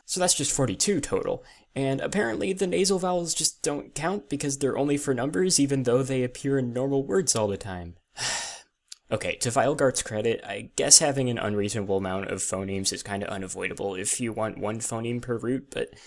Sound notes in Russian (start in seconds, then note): 8.2 вздох